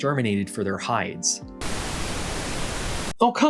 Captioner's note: TV Static